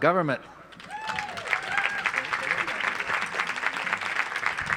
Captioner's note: audience applauds